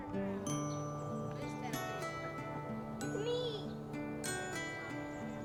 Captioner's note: children playing